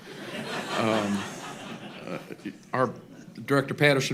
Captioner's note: laughter